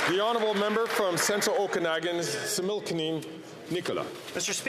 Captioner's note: some Applause